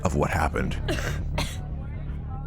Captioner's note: woman coughing